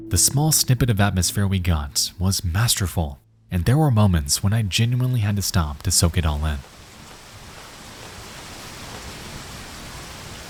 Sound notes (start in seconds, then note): 6.9 rain tapping